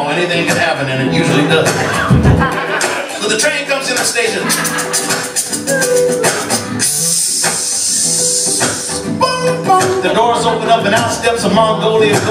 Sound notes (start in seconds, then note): 4.3 vocal train effect